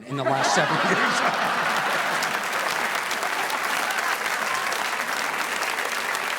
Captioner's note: audience laughing; audience applauding